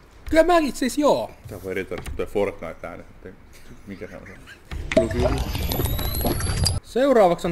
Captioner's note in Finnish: Fortnite juomisääni